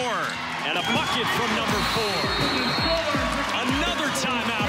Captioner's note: crowd cheers